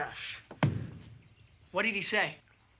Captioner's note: stick hits floor